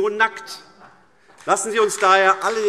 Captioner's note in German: Beifall AfD